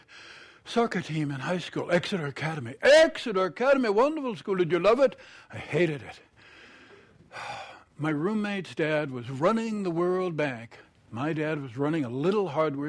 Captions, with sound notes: Exeter Academy." "Exeter Academy -- wonderful school. Did you love it?" "I hated it. [ Sighs ] "My roommate's dad was running the World Bank. My dad was running a little hardware store in Oklahoma."